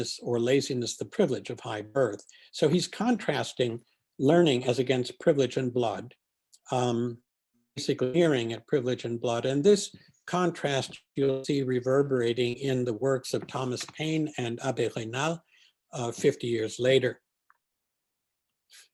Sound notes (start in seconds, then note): 7.8 distortion